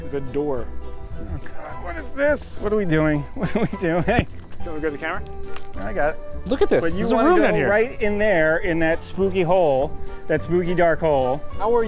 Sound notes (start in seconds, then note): 3.8 laughs